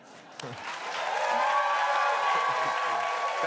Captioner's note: cheers and applause